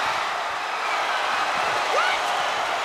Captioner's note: crowd cheering